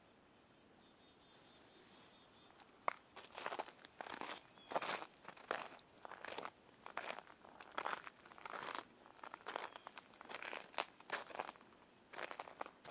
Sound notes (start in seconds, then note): 3.7 snow crunching